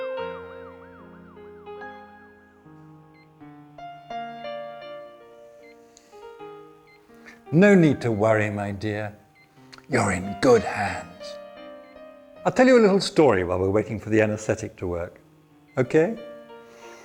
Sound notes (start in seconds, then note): 0.0 melancholy piano music; 1.7 laboratory machinery quietly beeps